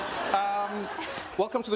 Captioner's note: group laughing